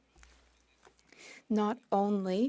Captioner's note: speaking French